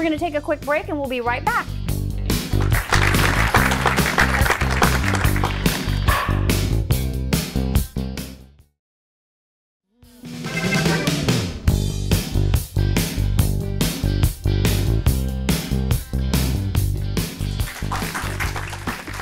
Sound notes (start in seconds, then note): 5.9 demoence applauding